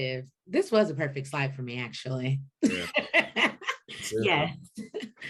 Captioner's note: laughs